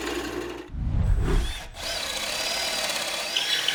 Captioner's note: air whooshes